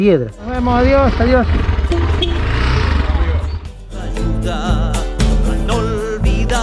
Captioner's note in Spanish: Bocina